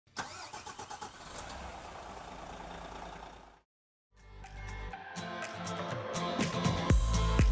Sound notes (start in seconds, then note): 0.1 truck engine starts; 4.2 upbeat music